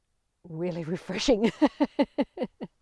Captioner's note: laughing